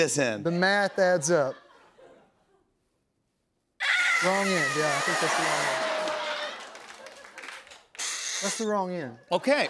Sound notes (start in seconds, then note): 3.2 duck call; 6.5 laughter; 7.9 blowing sound